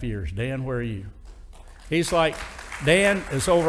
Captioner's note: audience applauding